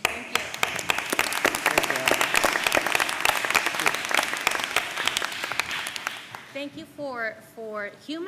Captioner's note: applause